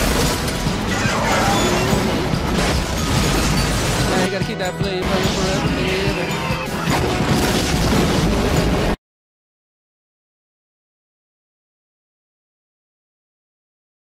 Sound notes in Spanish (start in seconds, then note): 6.7 explosiones; 8.9 silencio